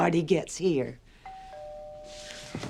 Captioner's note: doorbell ringing